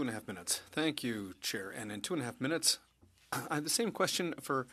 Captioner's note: speaking French